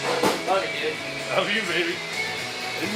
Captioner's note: laughs